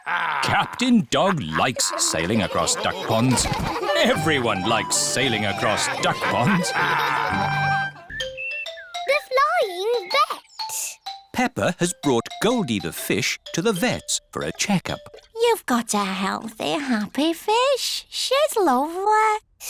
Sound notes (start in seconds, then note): 6.5 all laughing